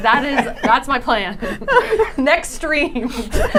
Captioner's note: laughing